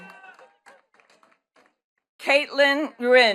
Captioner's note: attendees clapping